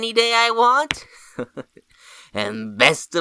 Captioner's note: chuckles